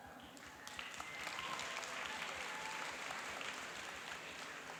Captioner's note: cheering and applauding